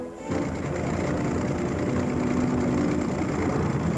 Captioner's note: motor rumbling